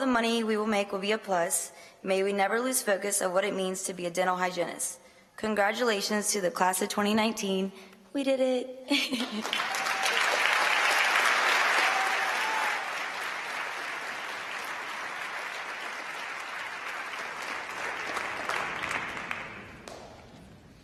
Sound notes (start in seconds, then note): 12.6 applause